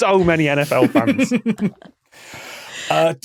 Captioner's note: scattered snickering